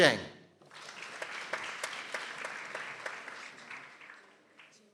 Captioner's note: people applauding